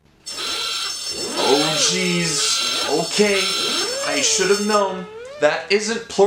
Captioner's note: QI Klaxon